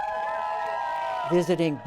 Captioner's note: applause; cheering